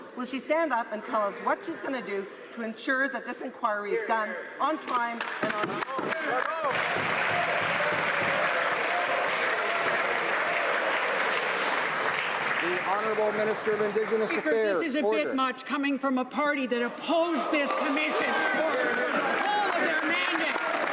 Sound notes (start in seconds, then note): 10.3 some Applause